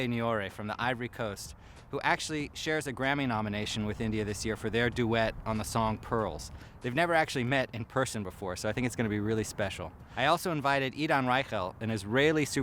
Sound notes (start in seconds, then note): none